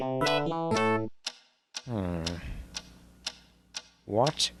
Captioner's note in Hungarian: Ticking Noise